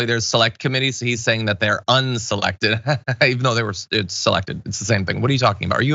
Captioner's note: laugh